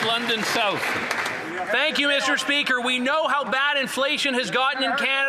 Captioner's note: some Applause